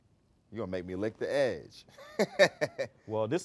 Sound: laughs

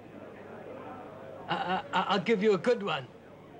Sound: stuttering

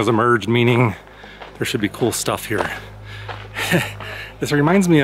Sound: chuckles

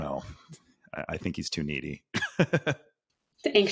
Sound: laughs

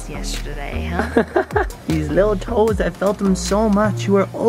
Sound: laughs

